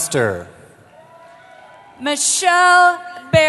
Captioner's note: cheering